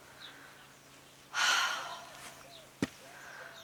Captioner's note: sighs